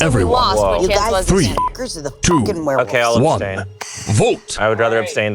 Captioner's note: beep